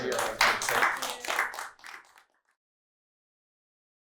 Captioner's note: applause